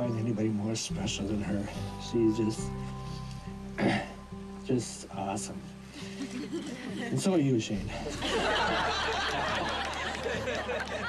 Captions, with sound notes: You couldn't find anybody more special than her. She is just (clears throat) just awesome. (laughter) And so are you Shane. (laughter)